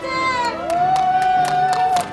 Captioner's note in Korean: 환호